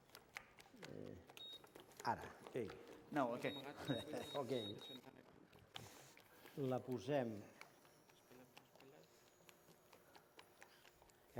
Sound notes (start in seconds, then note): 2.1 non-english speech; 5.3 laughs; 6.7 non-english speech